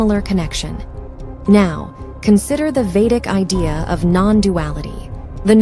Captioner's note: voiceover